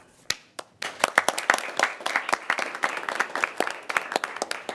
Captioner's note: people applauding